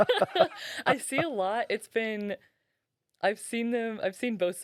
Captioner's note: laughing